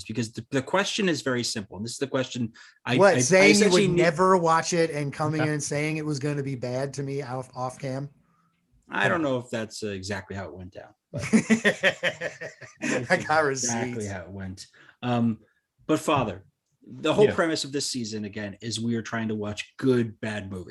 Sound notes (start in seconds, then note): 11.2 laughs